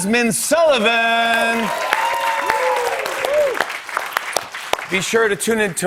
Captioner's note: cheers and applause